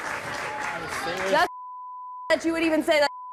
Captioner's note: beep